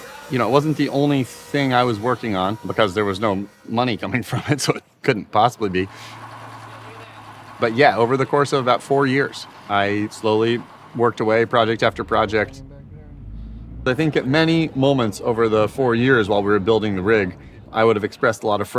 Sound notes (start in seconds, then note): 0.0 machines buzzing; 4.2 laughs